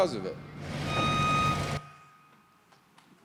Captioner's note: construction sounds